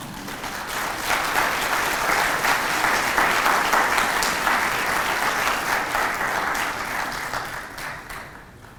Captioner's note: applause